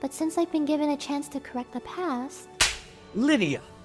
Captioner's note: face slap sound effect